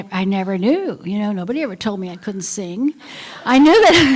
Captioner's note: laughter